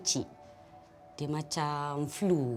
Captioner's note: in Bahasa Melayu